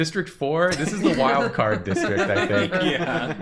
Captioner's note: laughter